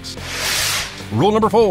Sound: firework hissing

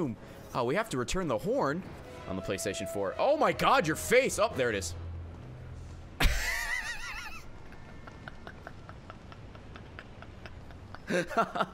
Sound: laughs

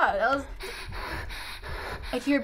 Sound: rapid, shallow breathing

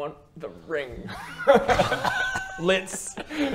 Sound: shameless laugh

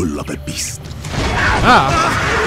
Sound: leopard shrieking

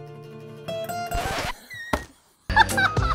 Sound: spanish guitar music; record scratching; laughs

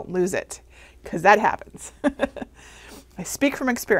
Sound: laughs

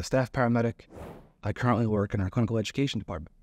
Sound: air whooshes

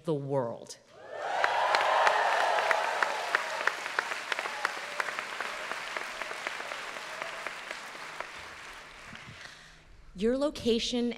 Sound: applause

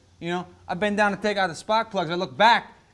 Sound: none

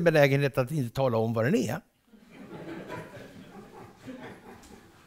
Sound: laughter

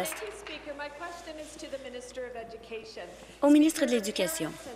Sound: applause

